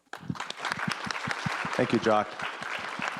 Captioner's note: audience applause